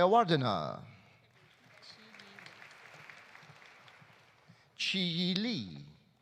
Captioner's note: audience applauding